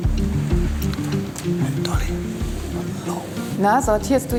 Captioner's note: whispers